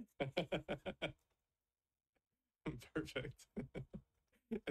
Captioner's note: chuckles